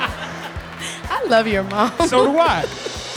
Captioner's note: laughing